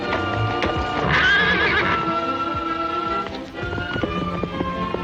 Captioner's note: horses neighing; hooves clomping